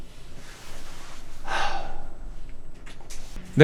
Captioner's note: sigh